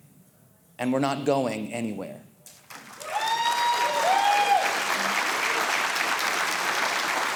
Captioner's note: audience cheering